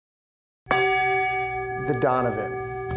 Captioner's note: bell rings